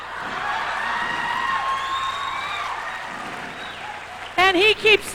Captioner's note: laughing and cheers from audience